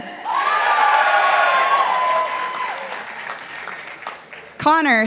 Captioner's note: participants applauding